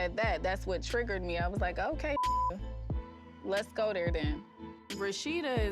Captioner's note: beep